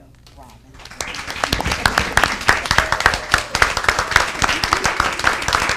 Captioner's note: audience applauding